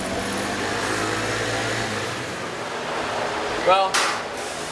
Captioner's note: motorcycle engine